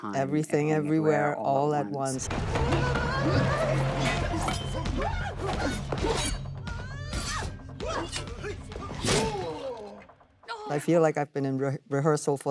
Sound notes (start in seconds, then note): 3.0 Michelle mumbling; 9.1 man grunts